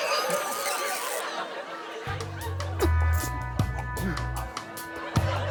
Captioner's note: all laughing